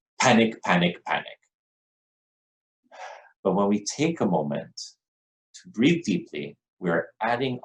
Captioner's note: deep breath